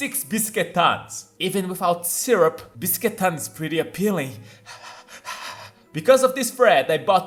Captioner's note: pant